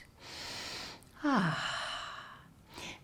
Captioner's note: inhales sharply